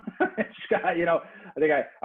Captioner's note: narrators Laugh